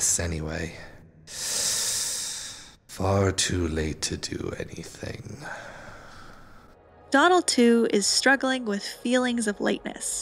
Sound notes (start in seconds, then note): 5.4 big exhaaaale